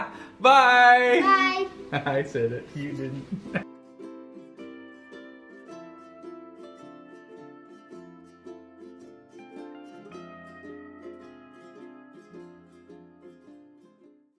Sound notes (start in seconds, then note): 0.0 laughs; 3.2 laughs; 4.0 slow relaxing music